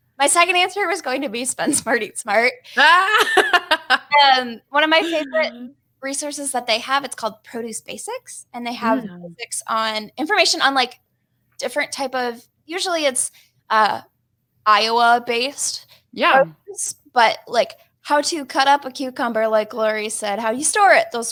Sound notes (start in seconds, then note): 4.9 laughs